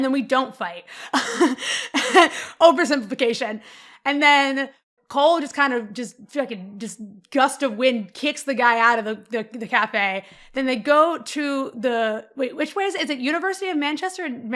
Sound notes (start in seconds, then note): 1.3 laughs